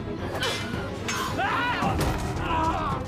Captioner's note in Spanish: grita